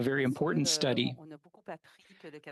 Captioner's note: speaking French